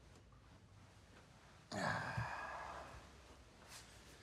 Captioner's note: Bjorn sighs